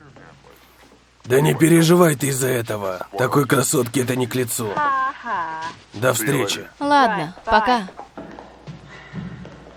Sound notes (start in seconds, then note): 1.2 man chattering; 4.8 Madge exclaiming